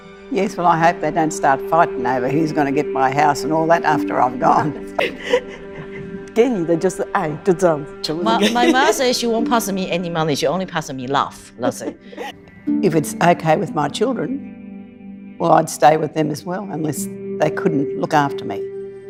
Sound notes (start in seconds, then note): 4.7 laughs; 6.2 speaks in Chinese